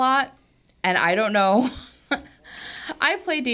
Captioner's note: laughs